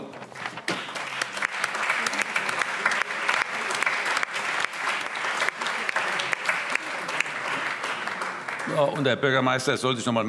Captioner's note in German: Allgemeiner Beifall